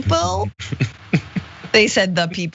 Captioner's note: laugh